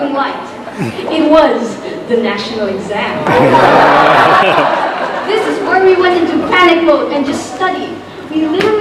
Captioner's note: laughter